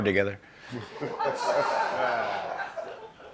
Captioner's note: laughter